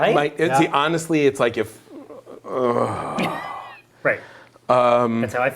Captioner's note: groans